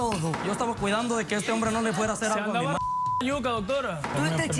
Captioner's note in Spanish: Bip